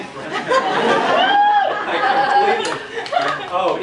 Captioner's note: laughter